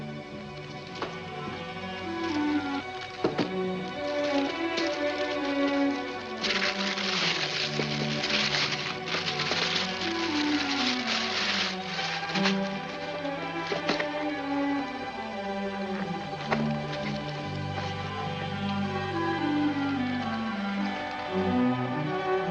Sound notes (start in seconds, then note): 0.2 ominous music; 6.1 paper rustling; 12.4 ominous music